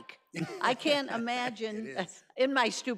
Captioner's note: laughs